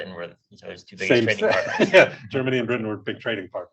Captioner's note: laughs